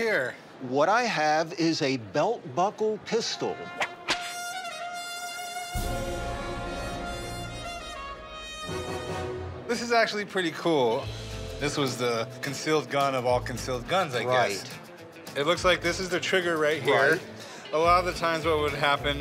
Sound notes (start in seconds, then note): 3.8 whip sound; 4.2 spaghetti western music